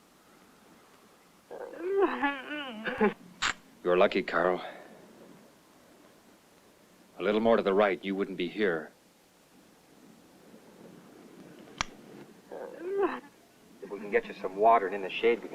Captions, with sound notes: (affectionate murmuring) You're lucky, Carl. A little more to the right, and you wouldn't be here. If we can get you some water and in the shade,